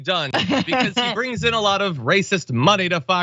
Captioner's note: laugh